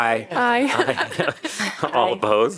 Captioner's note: laughter